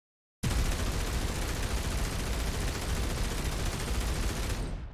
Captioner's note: rapid gunfire